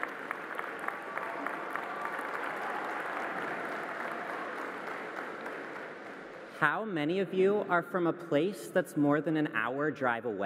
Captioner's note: applause